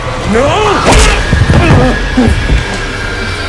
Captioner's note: grunts in pain